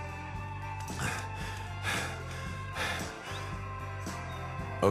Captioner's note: BoJack panting